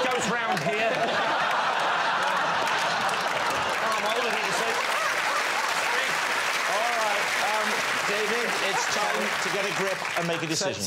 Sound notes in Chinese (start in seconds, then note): 5.1 掌声